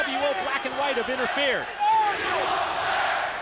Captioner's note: crowd chatter